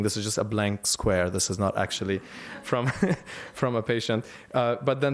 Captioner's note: laughter